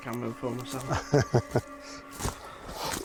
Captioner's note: chuckles